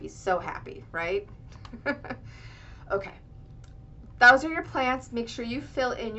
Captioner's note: laughter